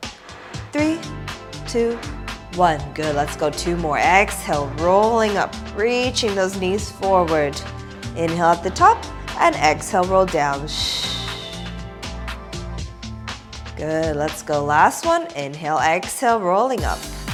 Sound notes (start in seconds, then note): 10.8 exhaling